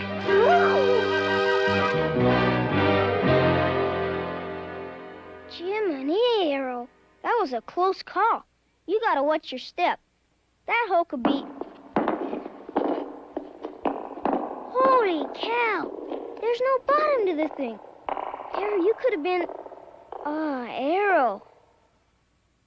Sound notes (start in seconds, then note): 0.0 ominous music; 12.1 rock thuds into hole